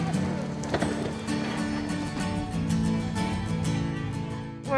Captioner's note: crowd chattering